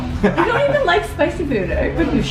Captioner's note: laughing